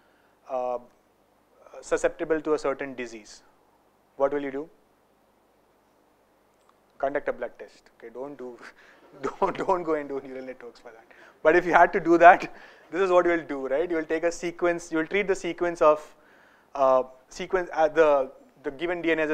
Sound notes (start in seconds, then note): 9.1 laugher